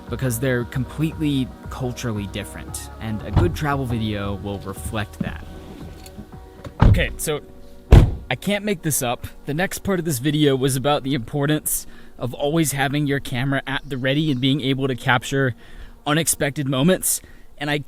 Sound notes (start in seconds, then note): 2.6 car door opening; 8.5 car door shutting